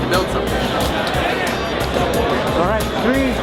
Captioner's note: noise from crowd